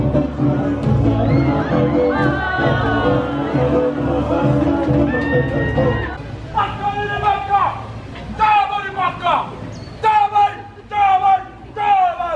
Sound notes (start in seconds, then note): 6.6 yelling in foreign language